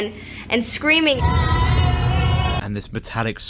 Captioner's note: crying